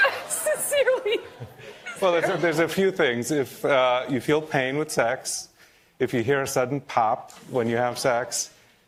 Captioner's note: laughter and applause